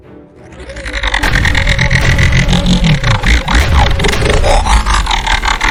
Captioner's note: dramatic music; electronic humming